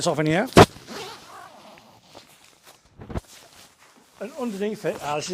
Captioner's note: zipper twangs